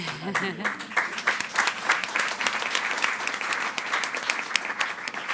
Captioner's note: audience applauding